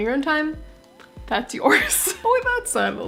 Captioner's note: laugh